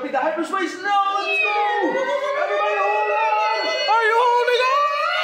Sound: actors make hyperspace sound

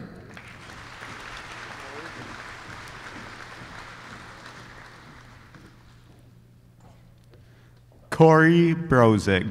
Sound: applause

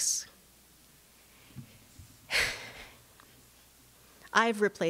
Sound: sighs

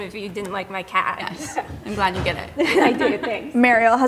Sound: chuckles

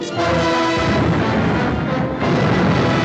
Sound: cannons fire continues

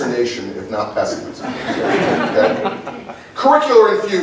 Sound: laughter

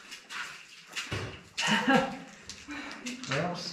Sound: splat

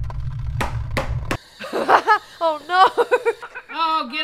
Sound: laugh

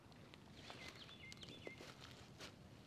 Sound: bird chirping

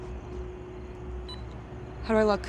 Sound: rec beep; ominous music

